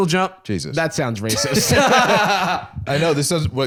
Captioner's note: laughs